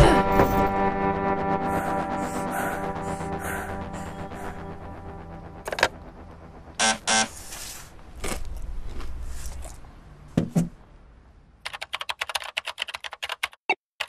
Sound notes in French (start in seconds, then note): 6.8 On sonne à la porte